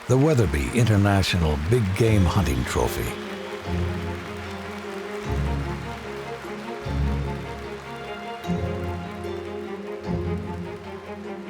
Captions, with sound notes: the Weatherby International Big Game Hunting Trophy. (applause) (violin music)